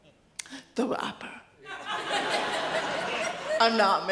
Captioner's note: audience laughs